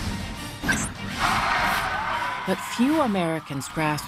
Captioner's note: audience applauding